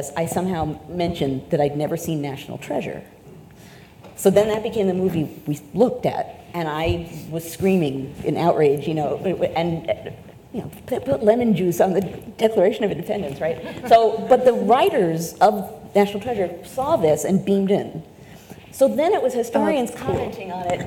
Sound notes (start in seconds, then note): 13.6 audience laughs